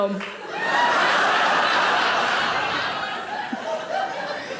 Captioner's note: audience laughing